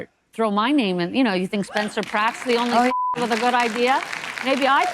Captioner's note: beep